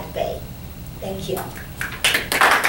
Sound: clapping

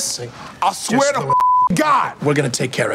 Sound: beep

